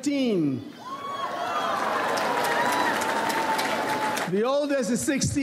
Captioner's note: audience applauds